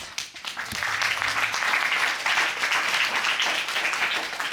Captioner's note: applause